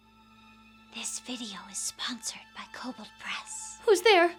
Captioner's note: suspenseful music; whisper